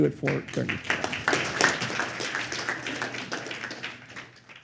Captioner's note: applause